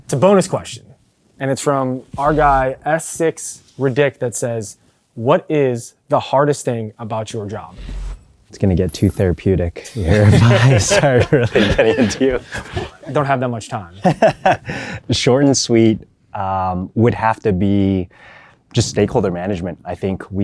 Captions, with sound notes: It's a bonus question and it's from our guy S6Ridic that says, "What is the hardest thing about your job?" -It's gonna get therapeutic... -[group laughs] ...if I start really getting into... -We don't have much time. -[laughs] Short and sweet, um... It would have to be just stakeholder management.